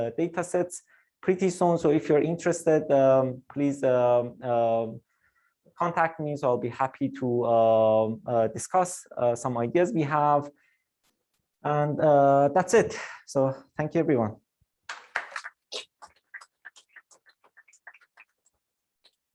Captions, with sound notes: datasets pretty soon, so if you're interested please um, contact me so I'll be happy to uh, discuss some ideas we have. And that's it. So thank you everyone. (applause)